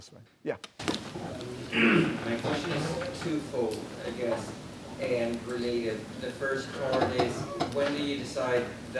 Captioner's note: clears throat